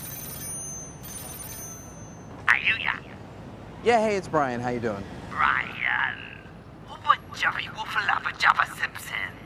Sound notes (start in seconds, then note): 0.0 phone ringing; 2.6 speaking alien gibberish